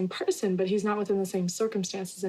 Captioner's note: none